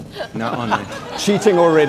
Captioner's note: audience laughing